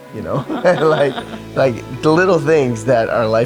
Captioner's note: both laugh